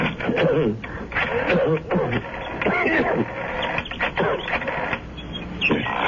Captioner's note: coughing